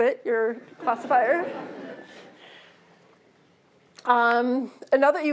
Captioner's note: laughter